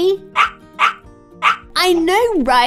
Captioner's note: Dexter barking